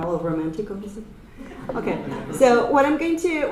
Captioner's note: audience laughter